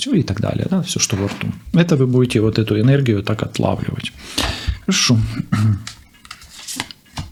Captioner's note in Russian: откашливается